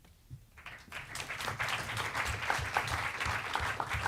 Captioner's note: audience applauds